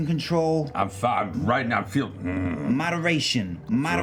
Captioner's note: grunts